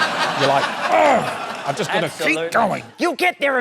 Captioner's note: grunts